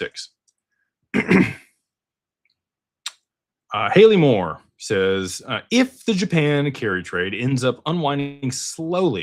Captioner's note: clears throat